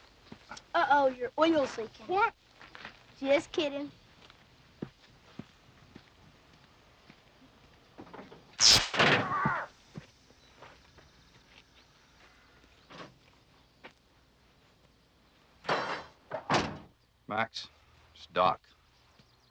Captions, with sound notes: Uh oh, your oil's leakin'. - What! - Just kiddin'. (electricity zapping) (Jim yelling) - Max, it's Doc.